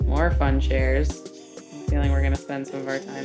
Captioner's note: camera lens whirring